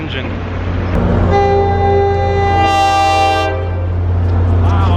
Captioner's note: train horn blares